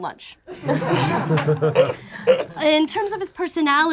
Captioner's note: group laughs